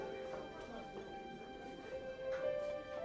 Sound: the chatter gets quiet

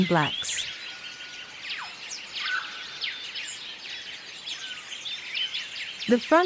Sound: birds chirping

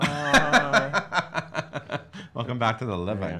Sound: laughing

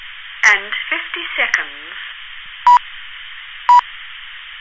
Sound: beep, beep, beep

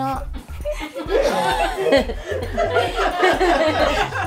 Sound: laughing

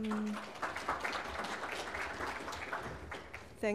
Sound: applause

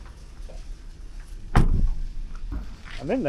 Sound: door slams shut

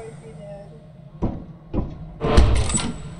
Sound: light footsteps on concrete; door squeaks open

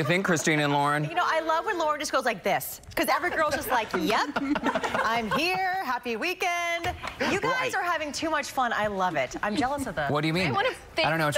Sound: laughter

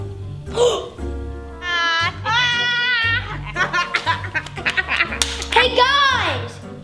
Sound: gasps; laugh

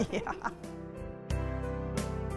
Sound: laughter; upbeat music

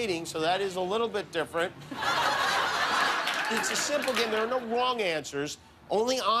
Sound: laughter

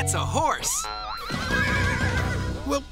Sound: horse neighing

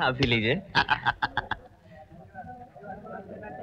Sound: laughing

